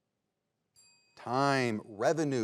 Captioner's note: bell dings